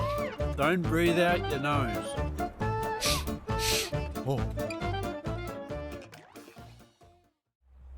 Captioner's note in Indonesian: terkesiap, tertawa